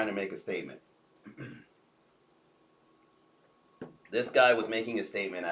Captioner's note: clears throat